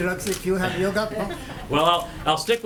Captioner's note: laughter